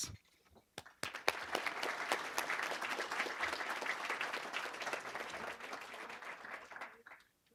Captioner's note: applause